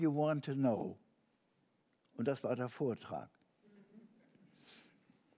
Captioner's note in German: Gelächter